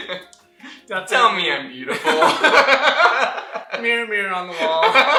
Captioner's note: laughter; laughter